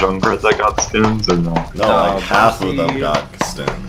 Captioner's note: Loud slapping and Overwatch conversation